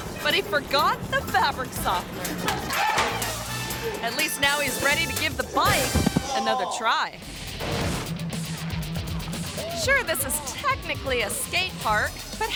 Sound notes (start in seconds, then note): 2.3 dryer clacks; 7.2 pulsating rock music